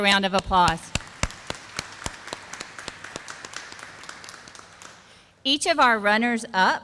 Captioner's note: sound of clapping